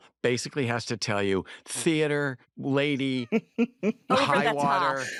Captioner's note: laughs